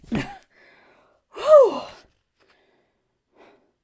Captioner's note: Hana sighs